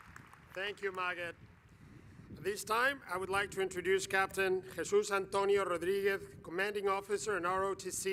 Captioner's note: applause